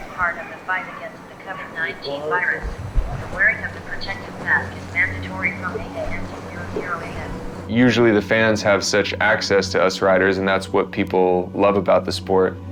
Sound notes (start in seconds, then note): 2.5 loudspeaker